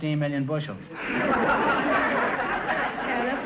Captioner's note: audience laughter